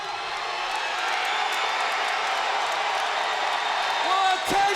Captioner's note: crowd cheers